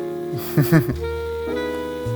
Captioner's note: hm-hmph